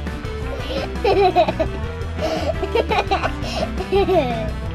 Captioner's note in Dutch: gelach